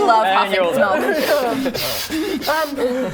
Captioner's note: huffing